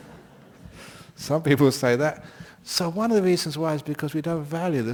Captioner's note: laughter